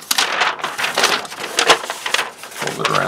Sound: paper rustling

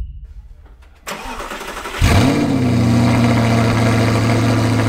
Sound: car engine starts

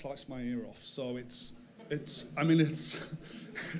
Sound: crowd laughs

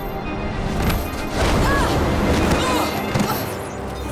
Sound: grunting

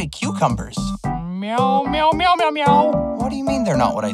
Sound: meows

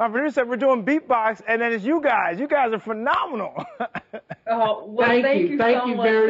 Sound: laughs

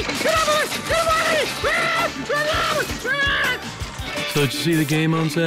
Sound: hysterical yelling

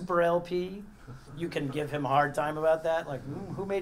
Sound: laugh

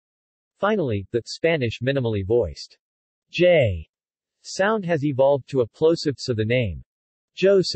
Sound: Spanish

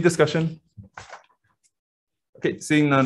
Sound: silence

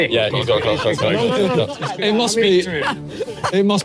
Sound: everyone laughing

